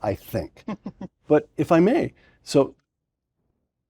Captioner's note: laugh